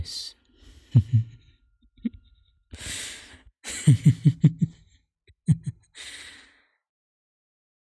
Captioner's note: preacher laughs